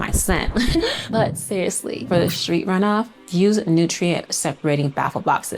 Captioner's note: laughs